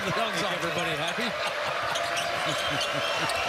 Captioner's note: laughter